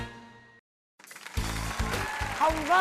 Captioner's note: applause